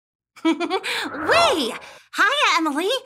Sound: giggles

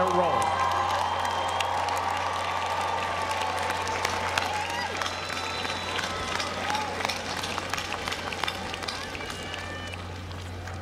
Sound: applause

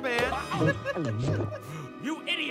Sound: Dragon King gulps

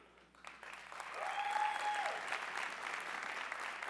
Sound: cheering

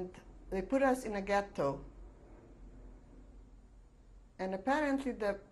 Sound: pauses for 3 seconds

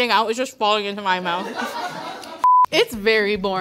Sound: laughing

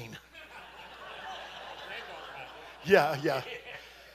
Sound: congregation laughing

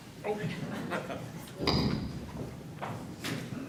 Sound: laughs

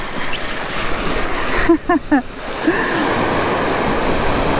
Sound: laughing

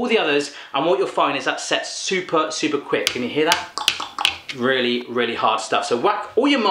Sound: bangs on chopping board

